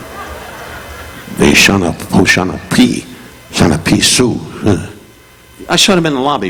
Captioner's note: Don speaking in foreign language